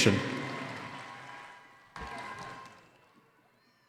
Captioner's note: cheering